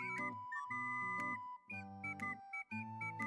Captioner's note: beep Beep Beep